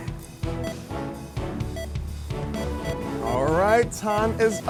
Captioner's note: timer beeping